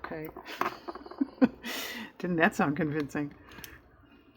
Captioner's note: laughs